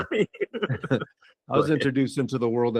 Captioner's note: laughing